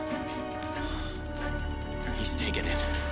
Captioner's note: sighs